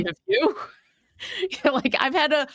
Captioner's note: laughing